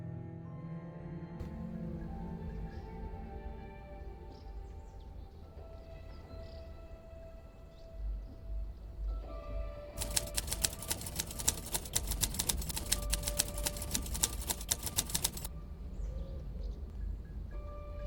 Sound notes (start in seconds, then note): 0.2 suspenseful instrumental music; 10.0 typewriter clicking; 17.7 suspenseful instrumental music continues